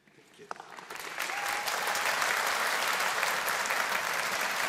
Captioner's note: audience applauding